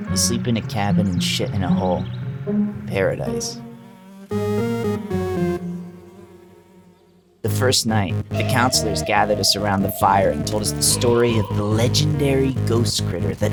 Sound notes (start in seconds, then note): 2.1 fly buzzing